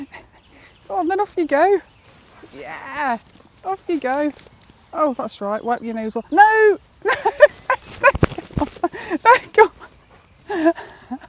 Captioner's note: laughs